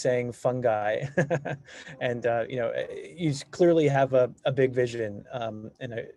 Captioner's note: laughs